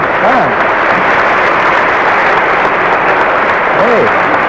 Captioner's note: applause continues